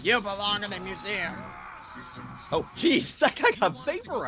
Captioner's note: screams